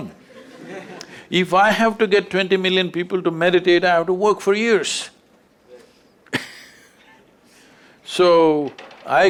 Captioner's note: few Laugh; laughs